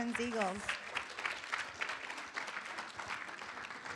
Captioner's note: room applauds